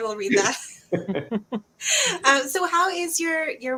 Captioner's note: soft laughter